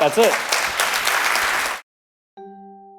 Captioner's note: applause